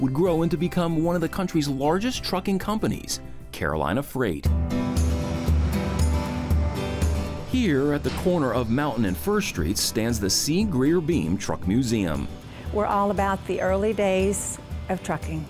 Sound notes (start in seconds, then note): 4.6 truck whooshes; 5.8 uplifting music